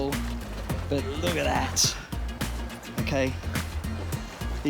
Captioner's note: relaxed music; water gurgling